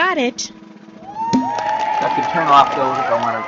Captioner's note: crowed applauding